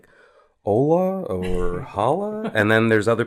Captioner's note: laugh